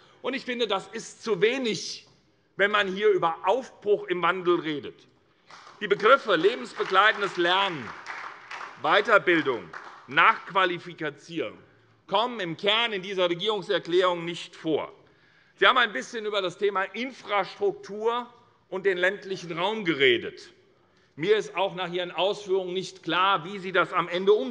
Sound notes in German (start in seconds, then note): 5.4 Beifall SPD